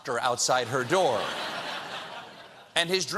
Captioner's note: laughter